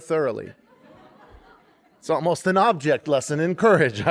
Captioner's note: laughter